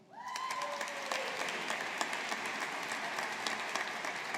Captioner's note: audience applauding